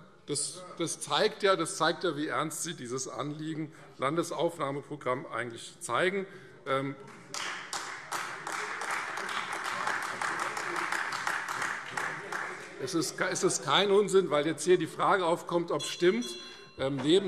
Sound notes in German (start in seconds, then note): 7.7 Beifall Freie Demokraten - Unruhe - Glockenzeichen